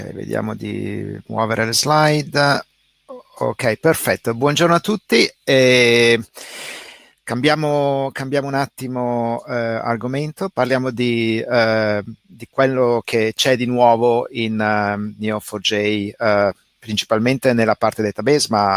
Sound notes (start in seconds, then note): 0.0 speaks in foreign language; 4.8 speaking in foreign language